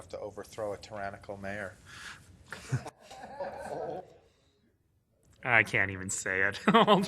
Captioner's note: laughing